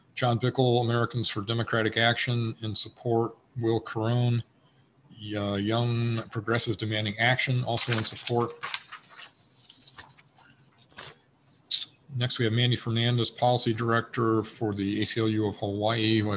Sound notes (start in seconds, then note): 7.5 pages rustle